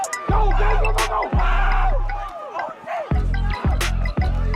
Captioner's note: audience cheers